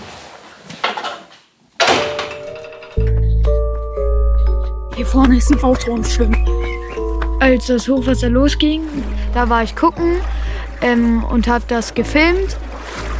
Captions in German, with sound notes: (Metallenes Klacken) (Atmosphärische Musik) "Hier vorne ist ein Auto am Schwimmen." Als das Hochwasser losging, da war ich gucken und hab das gefilmt.